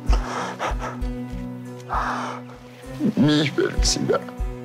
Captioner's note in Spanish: Sollozos